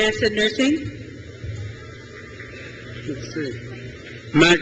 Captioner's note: crowd cheers